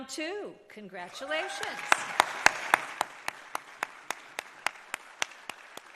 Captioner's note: audience applauding